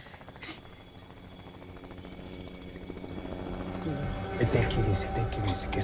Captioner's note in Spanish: Ruido de avioneta